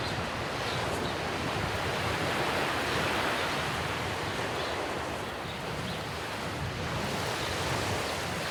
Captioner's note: waves lapping on shore